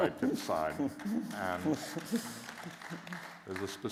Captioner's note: applause